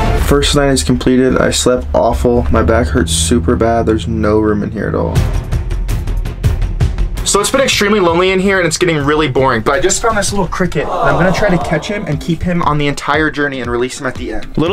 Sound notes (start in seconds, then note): 10.8 crowd affectionately sighs